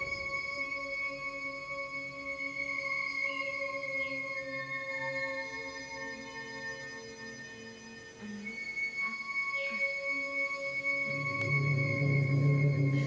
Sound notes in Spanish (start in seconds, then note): 8.5 Gemidos